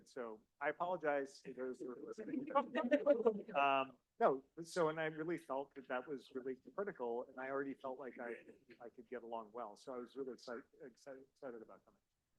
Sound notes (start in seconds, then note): 2.2 audience laughing